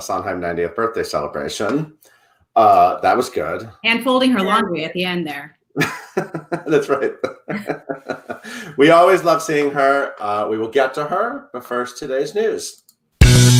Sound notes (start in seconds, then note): 5.8 laughs; 13.2 upbeat music